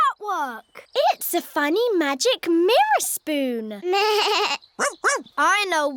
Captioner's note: bleats